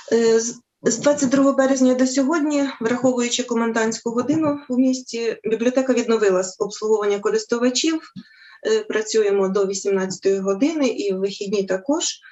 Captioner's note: foreign Language